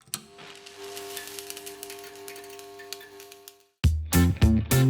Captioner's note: electricity crackles; upbeat music